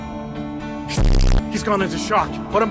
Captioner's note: glitch